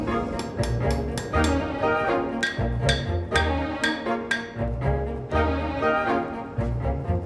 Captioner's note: hammer strikes